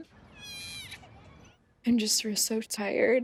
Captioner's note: baby screaming